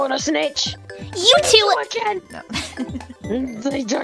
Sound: laughs

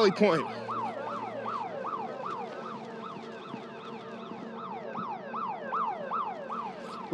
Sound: alarms ringing

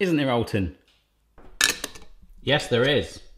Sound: clink

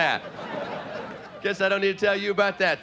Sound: audience laughing

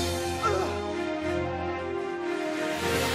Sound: Neil grunting

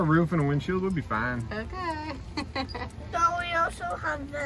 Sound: laughs

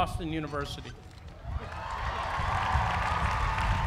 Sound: applause

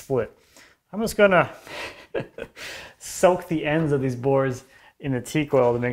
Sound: laughing

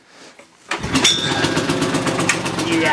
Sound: engine starts

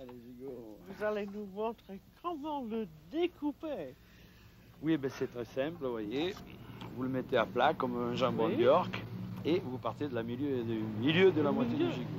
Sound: conversing in French

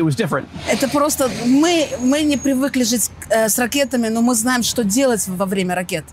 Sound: speaking in foreign language

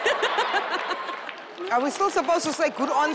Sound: crowd laughing

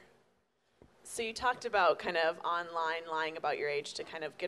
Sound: voiceover

